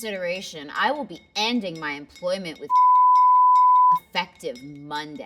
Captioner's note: beep